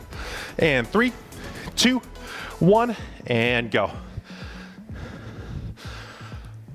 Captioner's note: panting